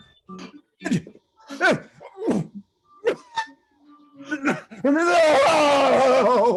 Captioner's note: groaning and screaming